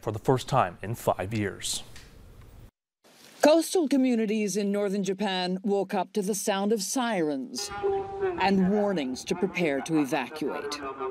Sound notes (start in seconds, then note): 7.6 natsÃ wailing